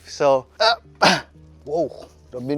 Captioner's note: grunts